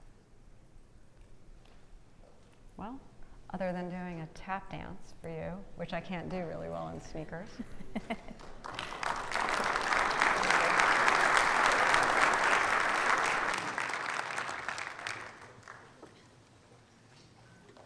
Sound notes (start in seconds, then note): 7.5 laughing; 8.0 audience applauding